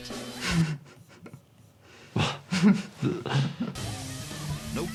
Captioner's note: both chuckling